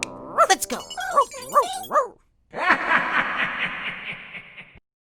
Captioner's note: laughing